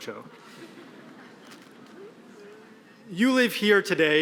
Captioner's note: audience laughing